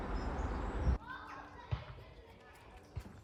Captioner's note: bird song